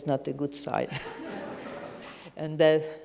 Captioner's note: audience chuckles